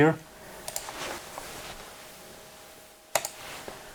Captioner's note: mouse clicking